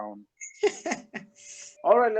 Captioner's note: sinister laugh